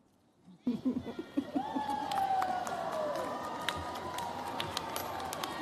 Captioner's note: cheers, applause